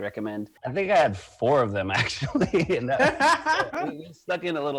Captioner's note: laughs